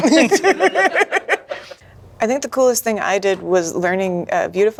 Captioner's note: all laughing